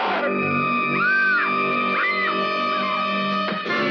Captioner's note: billy shouting; kane screams